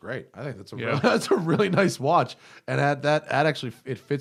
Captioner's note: laughter